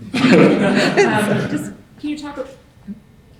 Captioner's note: audience laughing